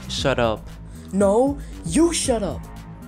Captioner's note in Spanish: Voz a través del pinganillo